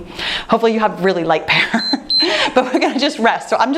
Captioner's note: timer beeps